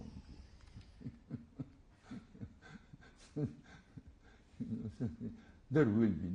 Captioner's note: laughs